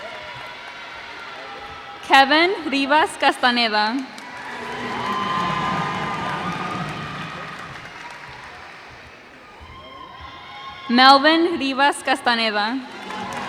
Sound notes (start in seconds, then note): 4.7 cheers and applause